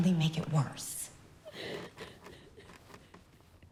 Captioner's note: sobbing continues